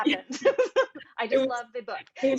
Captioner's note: laughs